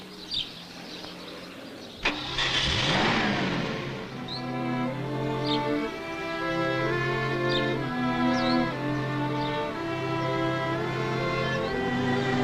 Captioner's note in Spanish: Motor suena